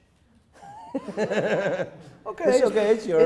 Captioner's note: laughing